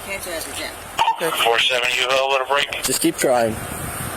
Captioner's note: radio chatter